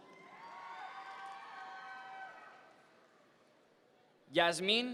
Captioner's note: audience members cheer